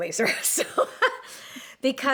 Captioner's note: laughs